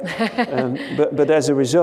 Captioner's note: laughs